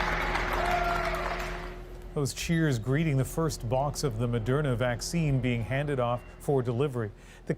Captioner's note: applause